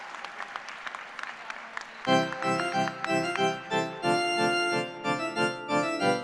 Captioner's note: cheers and applause